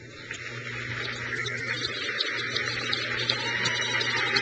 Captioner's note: crowd cheers